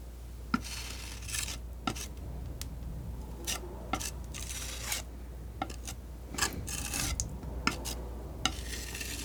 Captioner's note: scratching